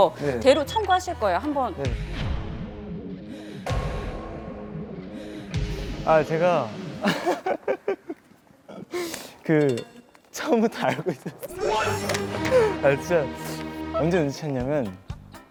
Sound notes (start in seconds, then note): 7.0 he keeps laughing